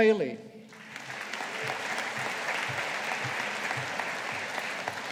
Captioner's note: audience applauding